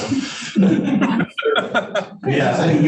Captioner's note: panelists laughing